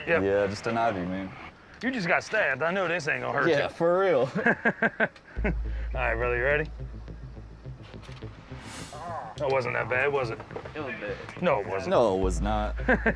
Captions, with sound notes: Yeah, just an IV, man. You just got stabbed. I know this ain't going to hurt you. Yeah, for real. [laughter] All right, brother. You ready? [moans] That wasn't that bad, was it? It was bad. No, it wasn't. No, it was not.